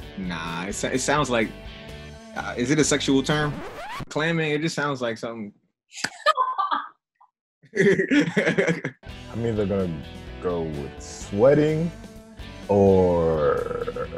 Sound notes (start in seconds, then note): 3.2 record scratching; 6.1 laughter